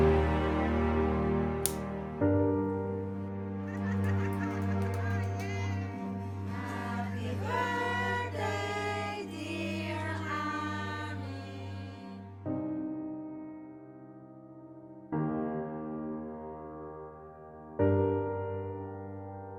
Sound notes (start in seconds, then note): 1.6 lighter clicks; 3.9 people talking in background, celebrating